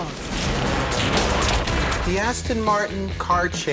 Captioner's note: explosion; gunfire